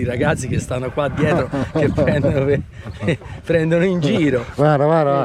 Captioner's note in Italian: risate; schiarire la voce